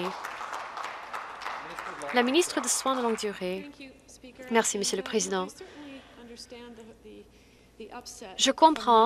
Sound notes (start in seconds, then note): 2.7 some Applause